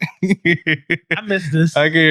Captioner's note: laughing